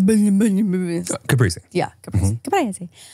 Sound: imitating gibberish

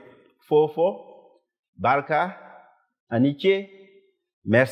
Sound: speaking foreign language

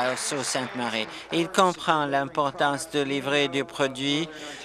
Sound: applause

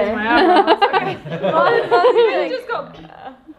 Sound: everyone laughs

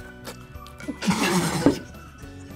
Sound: both laugh

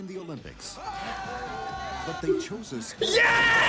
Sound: group yells

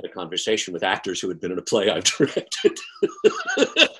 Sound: laughs

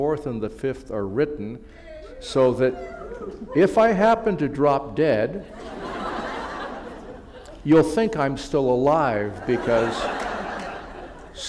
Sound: laughter

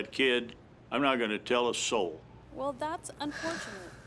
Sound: exhale

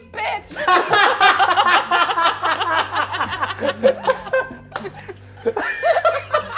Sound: all laughing

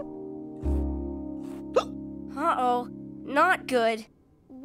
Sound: hiccupping

